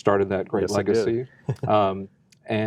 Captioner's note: laughs